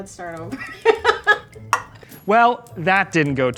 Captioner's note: laughing